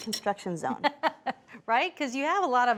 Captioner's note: laughs